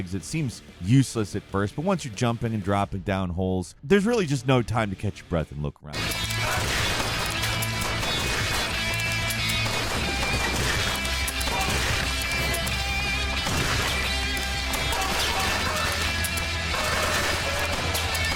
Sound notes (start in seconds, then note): 5.9 fast paced music; 6.2 explosions echoing loudly